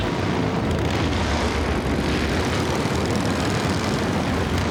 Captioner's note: motorbikes roaring